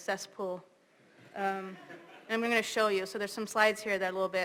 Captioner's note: laugh